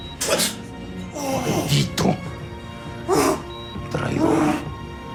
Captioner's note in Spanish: Quejidos